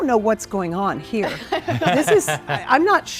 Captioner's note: couple laughs